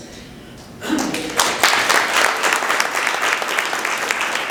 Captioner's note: applause